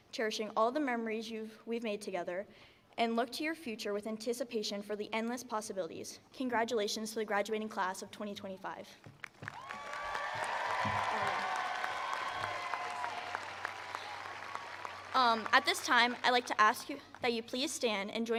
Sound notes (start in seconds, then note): 9.2 attendees applauding